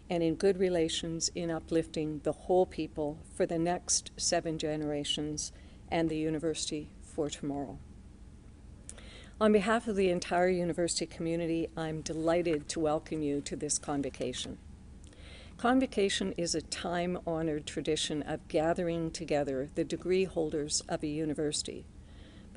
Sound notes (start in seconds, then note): none